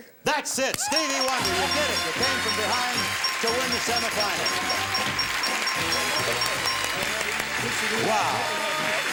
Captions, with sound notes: -Wonder. -That's it. Stevie Wonder. You did it! You came from behind to win the semi-finals. -(applause)